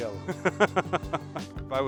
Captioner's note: laughing